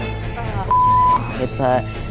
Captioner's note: beep